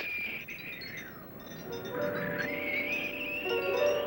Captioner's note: wind whistling